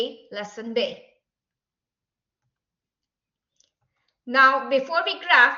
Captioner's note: silence